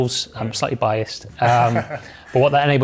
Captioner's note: laughing